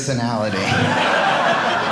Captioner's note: audience laughing